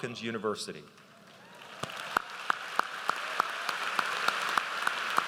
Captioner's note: audience applauds